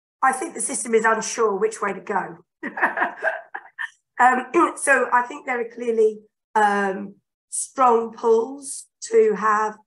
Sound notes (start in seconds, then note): 2.6 laughing